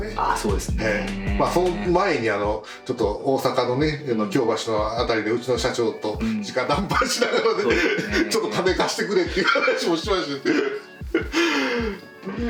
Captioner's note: laughs